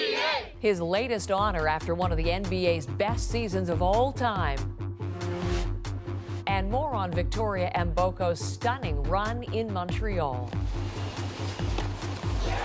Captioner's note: chants